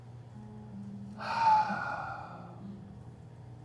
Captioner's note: sighs